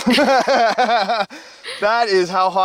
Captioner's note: laughing